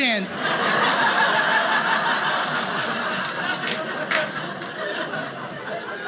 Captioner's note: audience laughing